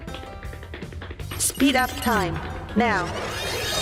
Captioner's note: robot voice